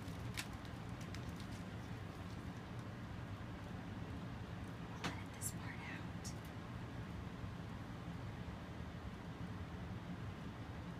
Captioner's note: whispering